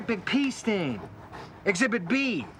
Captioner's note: sniffs